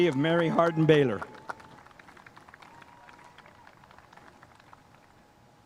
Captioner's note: spectators applauding